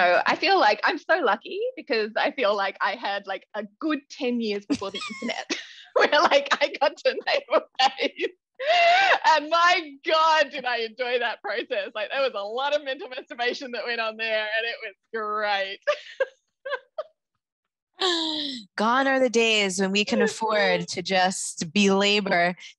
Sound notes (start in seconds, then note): 7.4 laughter drowns out speaker; 16.7 laughter continues